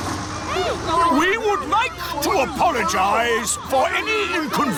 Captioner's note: all grumble